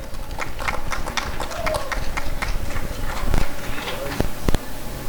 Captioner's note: applause and cheering